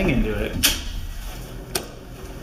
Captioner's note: circuit breaker switch clicks